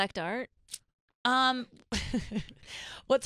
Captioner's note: laughs